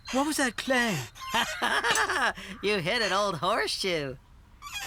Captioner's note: laughing